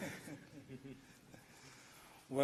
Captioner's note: laughter